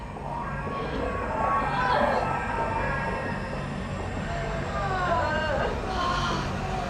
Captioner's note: Babies cry, call out to Rebecca; Rebecca exclaims as if in pleasure